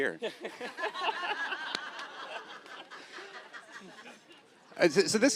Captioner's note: Evan and audience laughing